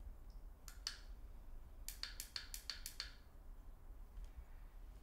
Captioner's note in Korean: 스위치 딸깍 거리는 소리